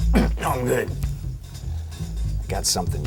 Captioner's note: coughing